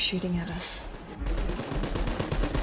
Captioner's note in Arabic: إطلاق نار